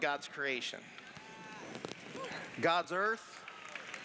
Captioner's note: cheers